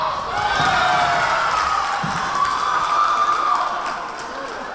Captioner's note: cheering; whistle blowing; cheering; clapping